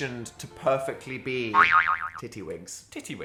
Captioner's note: spring boings